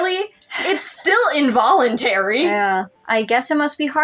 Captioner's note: quiet Laugh